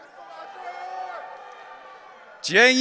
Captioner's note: audience cheering